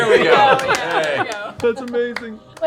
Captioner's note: laughter